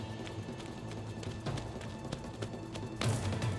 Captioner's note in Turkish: Ayak sesi